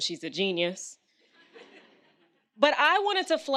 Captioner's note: audience laughs